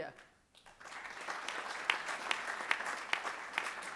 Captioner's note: applause